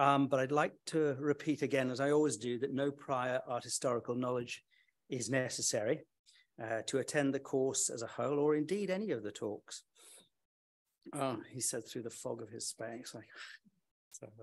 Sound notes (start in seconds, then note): none